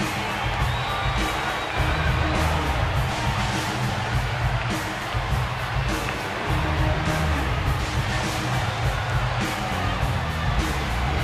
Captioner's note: crowd cheering